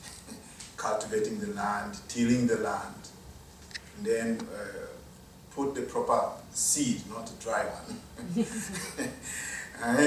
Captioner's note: laughs